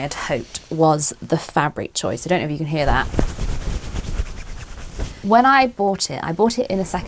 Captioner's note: fabric scrunching